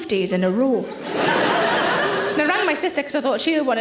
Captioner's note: audience laughs